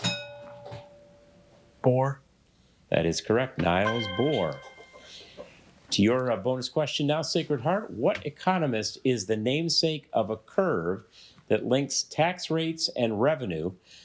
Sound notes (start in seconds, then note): 0.0 bell rings; 3.8 bell dings